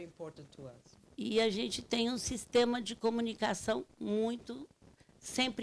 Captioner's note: speaking Portuguese